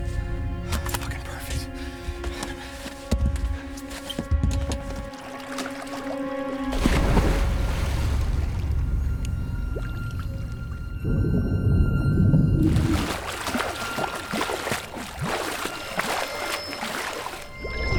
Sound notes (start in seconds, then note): 2.5 water splashing; 5.0 tense music; 7.2 water splashing